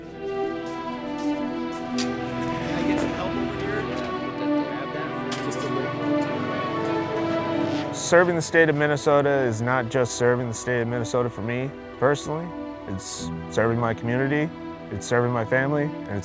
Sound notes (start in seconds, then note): 0.0 footsteps shuffle; 0.1 dramatic music continues; 5.1 dramatic music continues; 5.1 people chatter